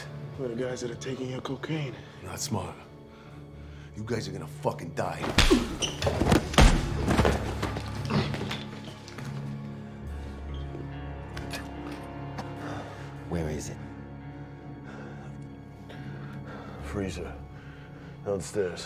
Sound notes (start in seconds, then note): 11.2 spits, coughs; 15.9 panting